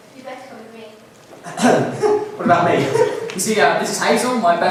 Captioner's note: ahem